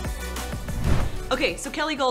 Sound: transition whooshes

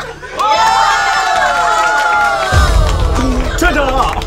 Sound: audience applauds; dramatic music

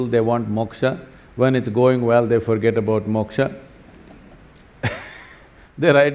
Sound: laughs

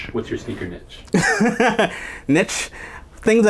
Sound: laughs

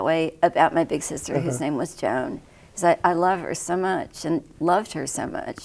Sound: uh hum

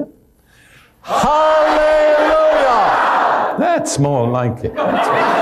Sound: everyone shouts

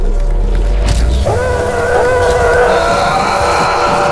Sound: Garrott's screams echoing; Madman mocking, mime-screaming

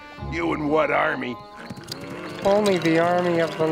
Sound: moaning

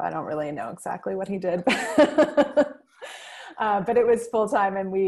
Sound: laughs

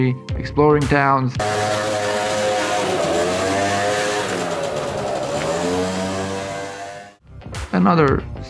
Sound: small town noises

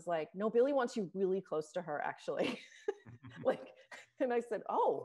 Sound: laughs

